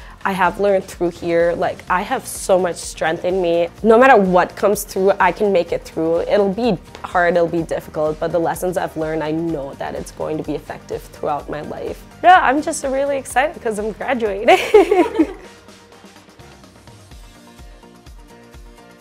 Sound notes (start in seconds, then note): 14.5 laughing; 16.2 upbeat music